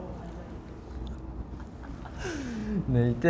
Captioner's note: silent laughter